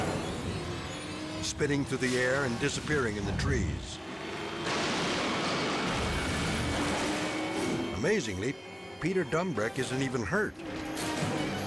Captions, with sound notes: spinning through the air, and disappearing in the trees. (car crashing) Amazingly, Peter Dumbreck isn't even hurt.